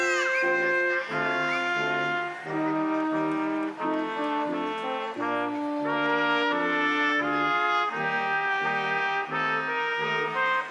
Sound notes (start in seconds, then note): 4.4 crowd applauding; 4.4 instrumental music continues